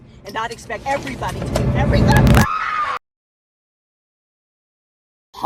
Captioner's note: scream